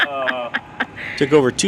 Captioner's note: /Friend laughing